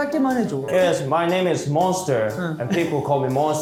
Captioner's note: KR/EN switching